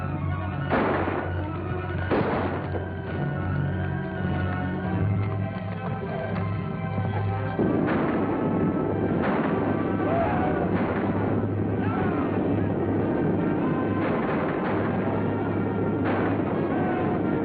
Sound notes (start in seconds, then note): 1.9 gunshots; 4.6 action music; 8.1 cowboys yelling; 8.1 horses stampede